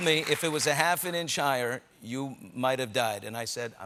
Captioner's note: applause